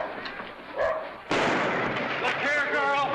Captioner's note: dog barks; gunshot